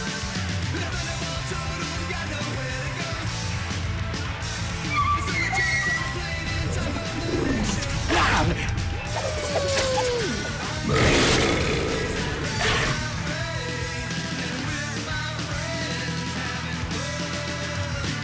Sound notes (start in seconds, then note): 8.0 rarrrr; 11.0 burrrp